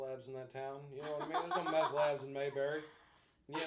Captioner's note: laughing